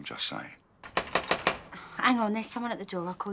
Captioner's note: more knocking